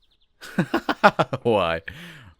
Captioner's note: TOSHIO laughs